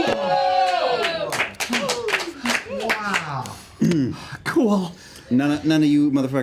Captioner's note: cheering; heavy breathing